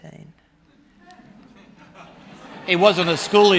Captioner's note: laughter